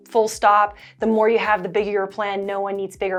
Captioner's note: Arabic